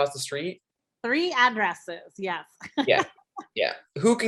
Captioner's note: chuckles